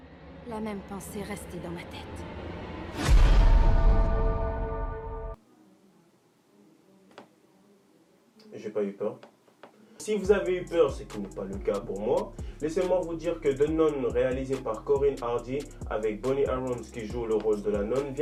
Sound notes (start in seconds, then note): 2.8 dramatic smash sound